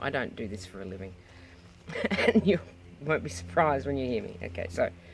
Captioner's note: laughs